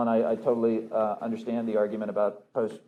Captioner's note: none